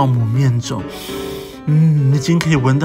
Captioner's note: sniff sniff